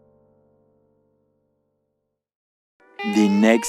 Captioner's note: silence